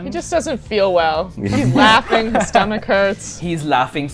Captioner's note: laughter